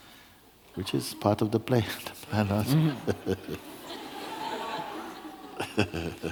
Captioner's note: laughter